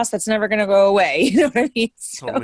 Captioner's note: laughing